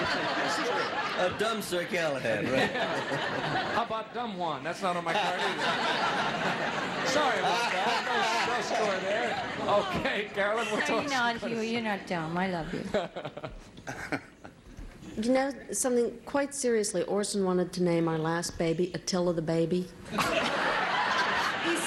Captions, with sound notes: -A dumb Sir Galahad, right. -How about Dumb Juan? That's not on my card either. (audience laughs) Sorry about that. No score there. Okay, Carolyn, what's-- No, you're not, Hughey, you're not dumb. I love you. -You know something, quite seriously, Orson wanted to name our last baby Attila the Baby.